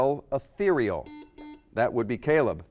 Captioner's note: buzzer